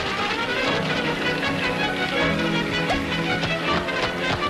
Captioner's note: water splashing